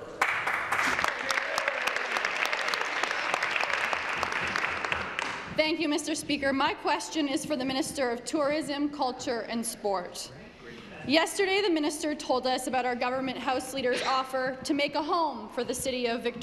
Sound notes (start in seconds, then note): 4.1 some Applause